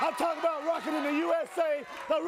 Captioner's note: crowd cheering